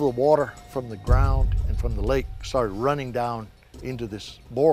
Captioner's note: rumble